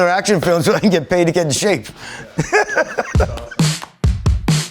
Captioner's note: laughs; upbeat music